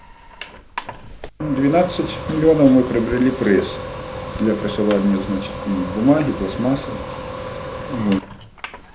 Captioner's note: man's speech sounds